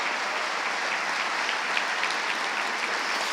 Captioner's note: audience applauding